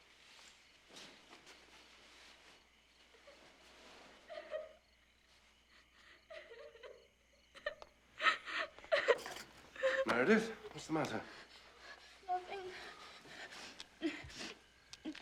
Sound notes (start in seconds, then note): 4.5 crying